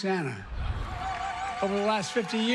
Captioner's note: laughter